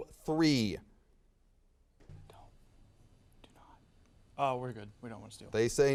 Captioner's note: whispers